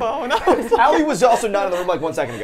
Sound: laughs

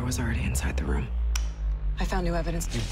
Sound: switch clicks

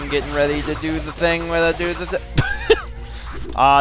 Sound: laughs

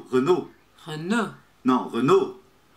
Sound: brazilian pronunciation

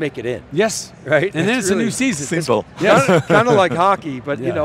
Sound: laughs

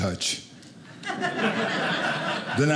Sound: audience laughing

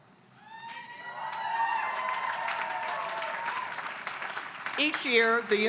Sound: applause

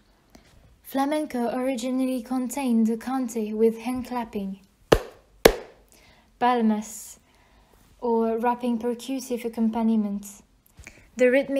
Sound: hands clapping twice

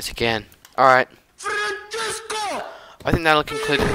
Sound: villager makes annoying noise

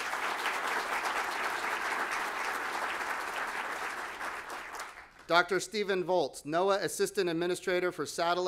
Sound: applause

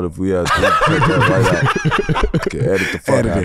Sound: laugh

